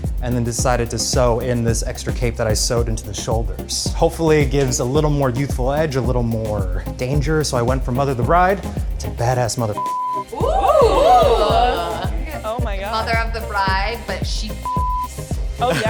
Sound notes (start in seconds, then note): 9.8 beep; 10.3 audience gasps; 14.6 beep